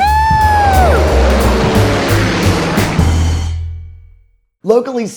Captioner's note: propellers whirling